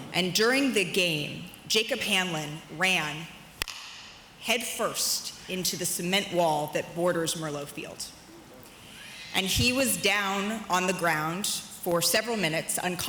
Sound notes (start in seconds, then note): none